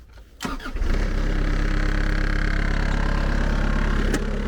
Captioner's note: engine rumbles